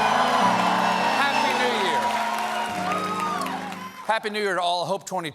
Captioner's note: cheers and applause